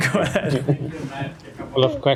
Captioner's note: laughter